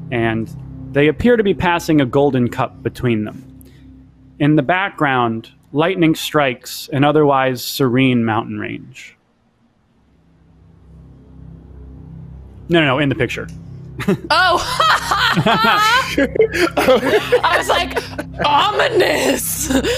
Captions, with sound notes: and they appear to be passing a golden cup between them. In the background, lightning strikes an otherwise serene mountain range. (ominous music) No, no, no, in the picture. - Oh. (laughing) I was like, ominous.